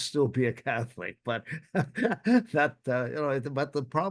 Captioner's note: chuckles